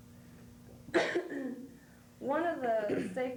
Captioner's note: coughs